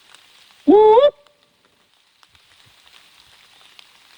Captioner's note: whooping